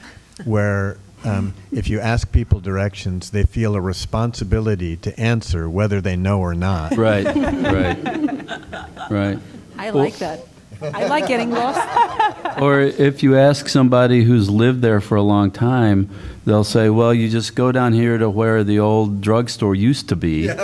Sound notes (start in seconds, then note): 6.8 laughter; 10.8 laughter